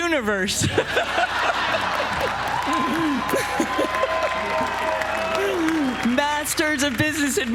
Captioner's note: laugh; applause